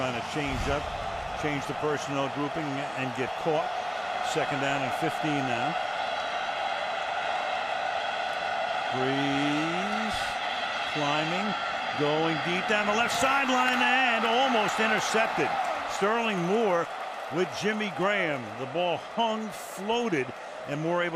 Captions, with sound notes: They're trying to change up, change the personnel grouping, and get caught. Second down and 15 now. [cheering] Brees climbing, going deep down the left sideline. And almost intercepted! Sterling Moore with Jimmy Graham, the ball hung floated.